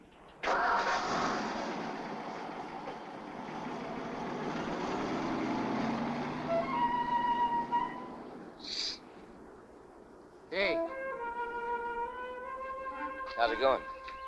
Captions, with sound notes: (car engine rumbling) (suspenseful music) - Psst. Hey. - How's it goin'?